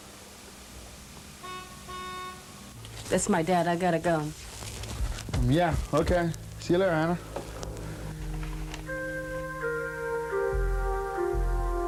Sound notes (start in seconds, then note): 1.4 car honking